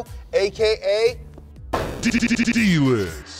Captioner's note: loud thud